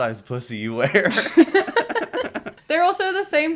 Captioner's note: laughter